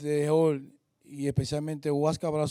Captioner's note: speaking spanish